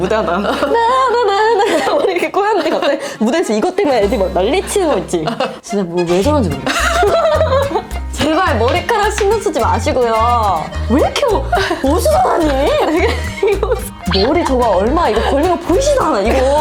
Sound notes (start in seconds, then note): 10.5 difficult breathing